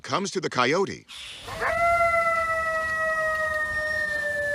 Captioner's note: coyote howls